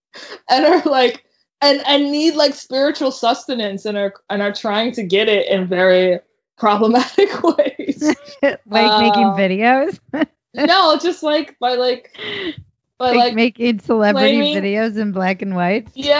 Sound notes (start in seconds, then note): 6.9 laughs